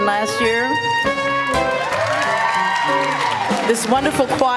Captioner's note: applause